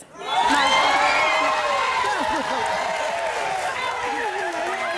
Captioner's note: applause